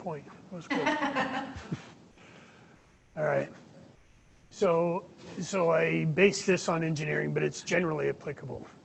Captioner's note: laughter